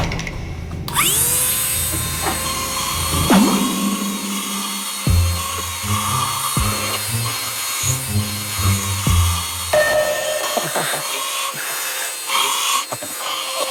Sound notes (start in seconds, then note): 0.7 machine running; 5.3 running; 12.3 running